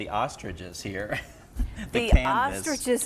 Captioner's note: laughs